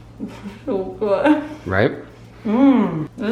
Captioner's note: laughing